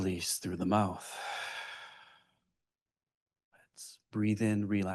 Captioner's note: exhales deeply